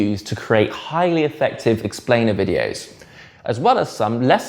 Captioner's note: none